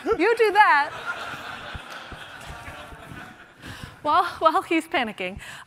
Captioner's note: laughter